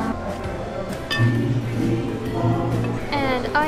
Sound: fork clinks

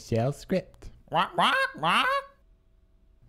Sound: squawking

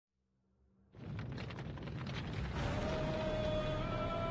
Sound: rumble

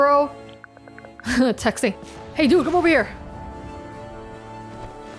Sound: chuckles

